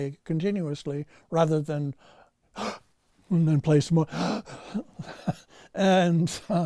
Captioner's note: gasps